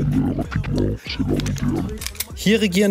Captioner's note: clicking of weapons